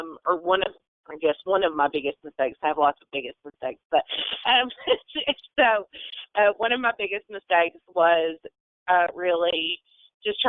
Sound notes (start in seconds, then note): 4.1 laughs